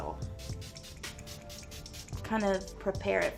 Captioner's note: spritzing